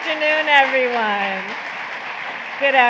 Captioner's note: applause